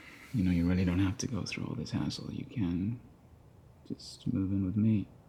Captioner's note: none